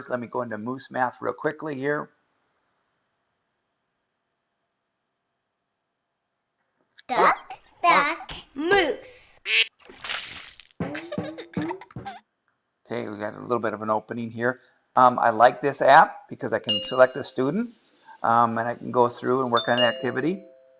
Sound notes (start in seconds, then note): 9.4 duck quack; 9.6 water splashing; 10.7 ball bouncing